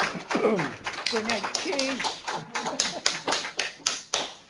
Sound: applause; non-english speech; chuckles

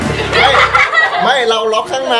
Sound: laughs

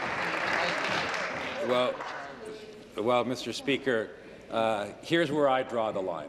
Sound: applause

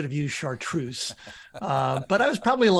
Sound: laughing

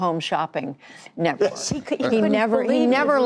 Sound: laughter

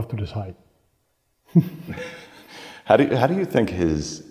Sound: chuckling

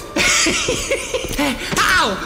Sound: laughter

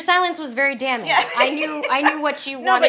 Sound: laughs

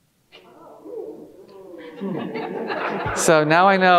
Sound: audience laughing

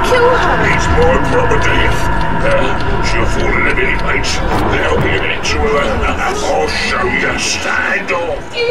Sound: coarse Voice

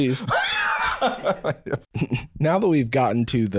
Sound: wheezing laughter

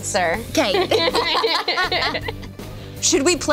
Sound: laughing

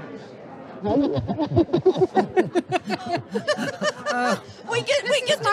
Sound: both laughing

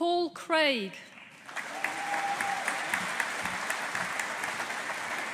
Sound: audience applauding

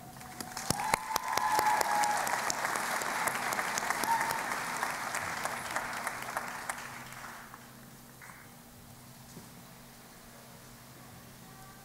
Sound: cheering and Applause

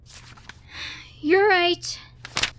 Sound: sigh

